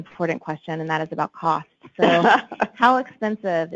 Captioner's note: laughs